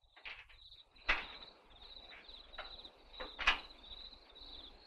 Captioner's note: crickets chirping